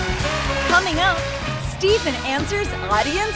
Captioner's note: band playing; cheers and applause